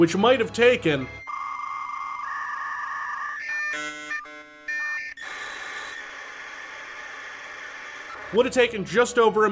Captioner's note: old modem run dial up sounds